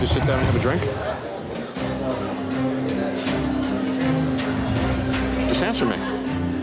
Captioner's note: chatter